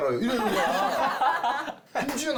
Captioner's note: laughs